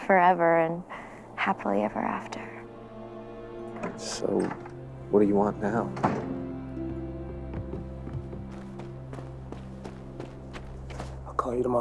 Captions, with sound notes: HAPPILY EVER AFTER. SO WHAT DO YOU WANT NOW? (Front Door Closes) I'LL CALL YOU TOMORROW SIS.